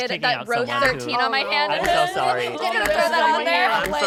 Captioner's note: group chattering indistinctly